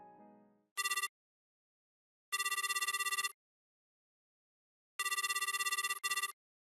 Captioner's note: ringing sound heard from the receiver